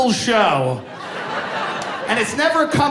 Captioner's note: audience laughing